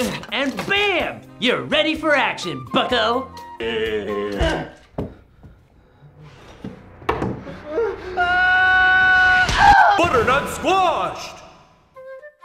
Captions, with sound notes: And bam!!! You're ready for action bucko! Errrgggghhhh *Ugh!* *Screams* BUTTERNUT SQUASH'D!